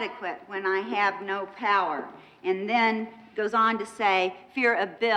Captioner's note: none